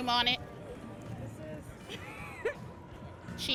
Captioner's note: laughs